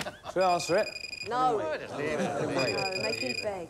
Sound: chattering

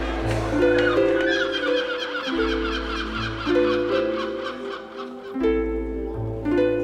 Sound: seagulls squawking

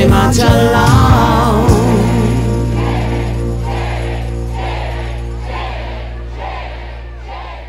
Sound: chanting

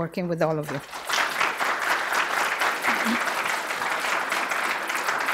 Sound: audience applause

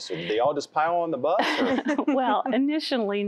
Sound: laughter

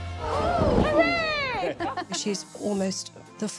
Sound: guests exclaim in awe; laughs

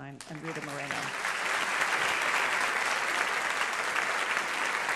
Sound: audience applauds

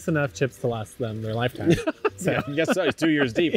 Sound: laughs

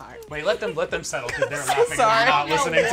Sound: laughing

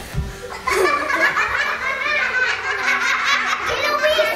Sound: children laughing

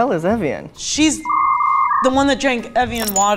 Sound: technical whirring

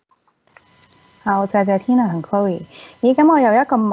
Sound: Cantonese

